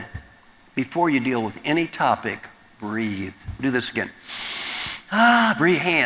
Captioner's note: breathing sound